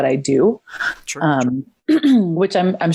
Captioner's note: clears throat